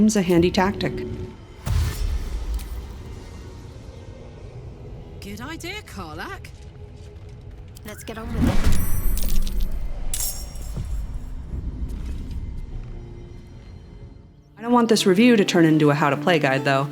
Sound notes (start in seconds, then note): 1.4 whoosh of DASH being selected; 3.1 menacing, faint choral music; 6.6 menacing, faint choral music; 8.2 magical WHOMP of combat starting; 9.6 dice rolling; 10.0 metallic swish of weapons drawn; 11.0 menacing, faint choral music